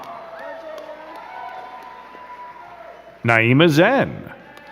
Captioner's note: crowd cheering and clapping